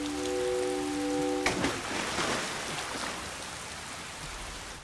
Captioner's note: water splashes